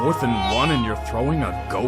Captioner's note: nyooooooom!